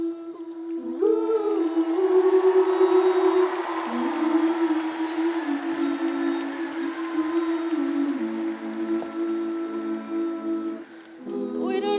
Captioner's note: humming